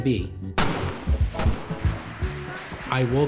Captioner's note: gunshots